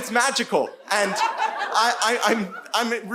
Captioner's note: audience laughing